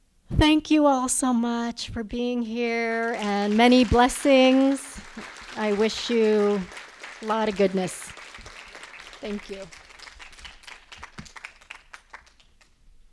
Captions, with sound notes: Thank you all so much for being here and many blessings. I wish you a lot of goodness. Thank you. [ Applause ]